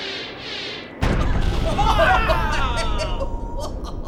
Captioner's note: boom!